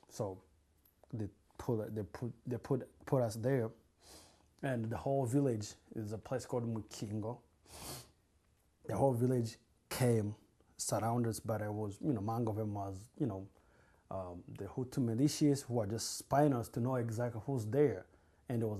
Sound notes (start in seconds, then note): 12.8 non-english